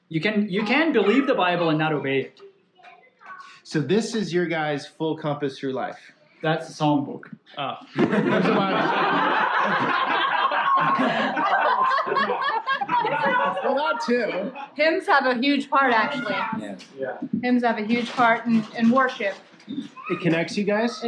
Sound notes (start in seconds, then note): 7.9 laughter